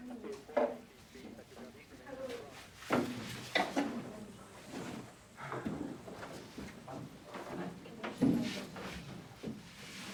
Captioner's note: quiet chatter